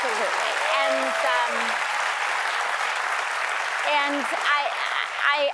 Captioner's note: cheers and applause